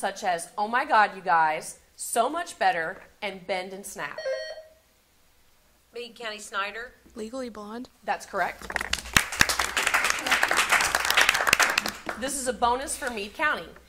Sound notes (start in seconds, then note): 4.2 buzzer sounding; 8.6 audience applauding